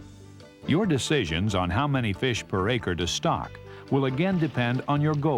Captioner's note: voiceover